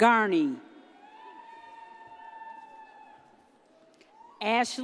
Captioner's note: audience cheers